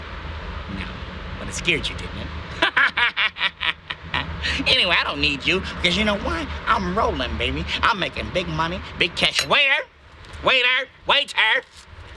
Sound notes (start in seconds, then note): 2.6 laughing